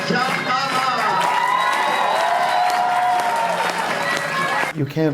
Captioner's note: audience cheering